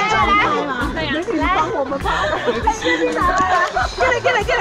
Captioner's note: laughs